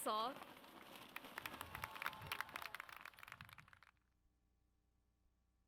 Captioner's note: audience cheers